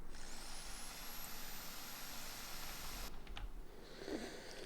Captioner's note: electric saw noises in background